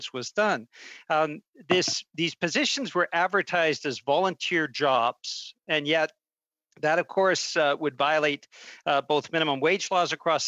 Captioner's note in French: voix de l'interprète